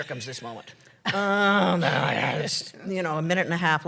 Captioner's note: laughter; grunts